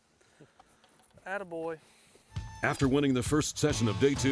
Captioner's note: voiceover